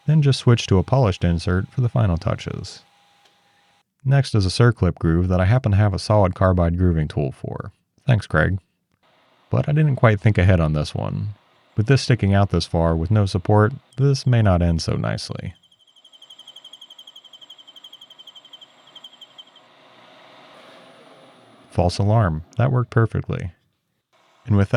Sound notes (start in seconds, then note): 15.5 tool screeching